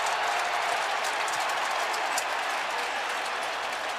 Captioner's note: cheering